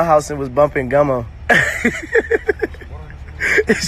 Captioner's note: laughing